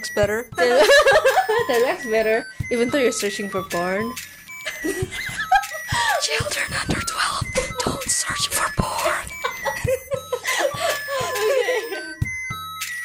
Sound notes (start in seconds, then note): 0.7 ahuehuehue; 5.1 pervy laughing; 6.1 whispering; 9.4 laughfest